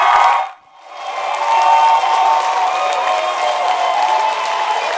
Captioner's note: crowd cheering